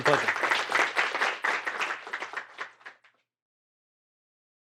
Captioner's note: applause